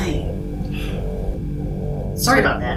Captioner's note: sighs